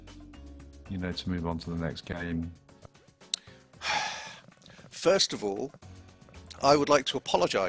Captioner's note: sighs